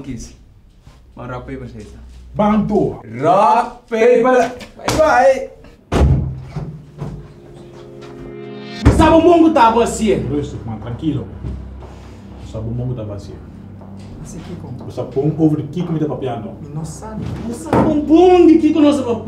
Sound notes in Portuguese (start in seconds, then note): 6.0 door opens